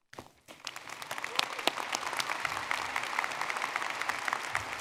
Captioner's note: audience clapping